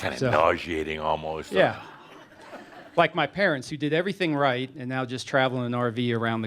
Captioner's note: some chuckles